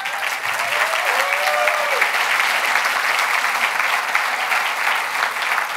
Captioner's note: audience applauding and cheering